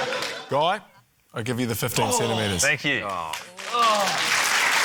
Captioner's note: laughter; groans; cheering, applause